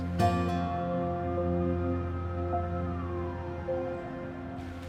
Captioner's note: siren wails